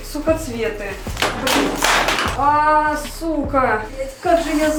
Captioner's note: another falling sound